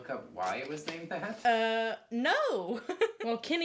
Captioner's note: laughs